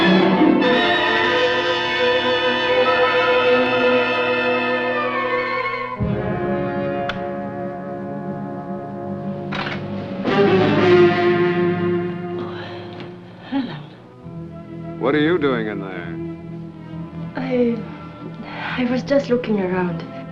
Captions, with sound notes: [ Latch Clicks ] Oh. Alan. What are you doing in there? I-- I was just looking around.